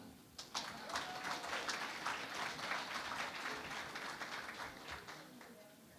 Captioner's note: applause